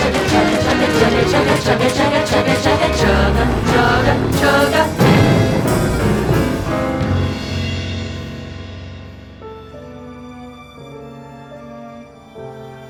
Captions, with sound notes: chugga chugga, chugga chugga, chugga chugga, chugga chugga! Chugga, chugga, chugga…! [BOOM!] [soft music]